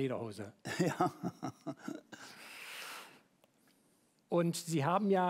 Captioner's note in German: Gelächter